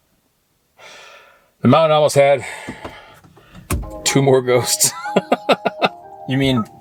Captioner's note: laughing